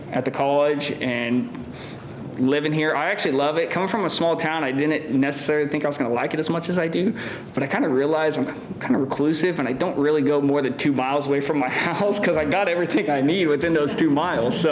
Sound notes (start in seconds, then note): 11.9 laughing